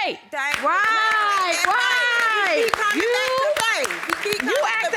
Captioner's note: audience applauds